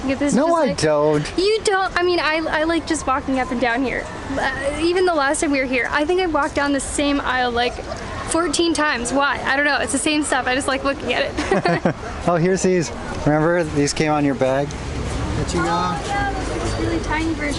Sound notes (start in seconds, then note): 11.3 laughter